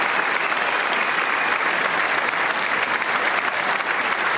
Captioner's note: applause